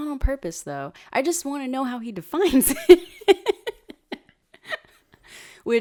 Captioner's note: laughs